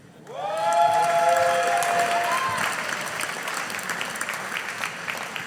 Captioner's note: audience applauding